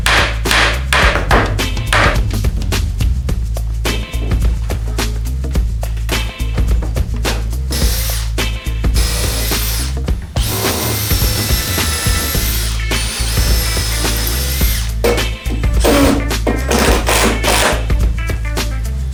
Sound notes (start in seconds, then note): 0.0 hammering; 8.9 drilling